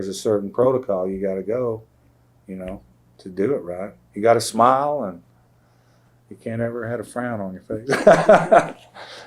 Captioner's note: laughs